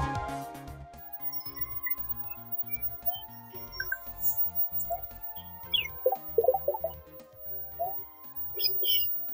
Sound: Mario World game sounds

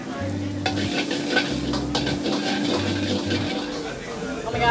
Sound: pan scraping

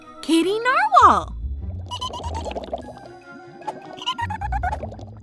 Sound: giggles

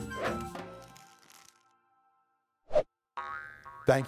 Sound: spring bouncing

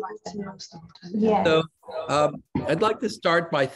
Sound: overlapping chattering

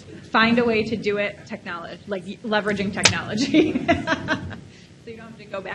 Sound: laughs

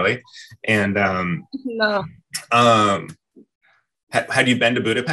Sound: chuckles

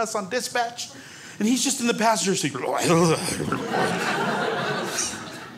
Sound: blubbers

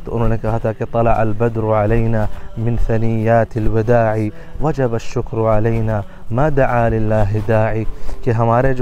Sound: Arabic

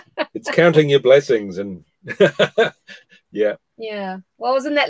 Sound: laughs

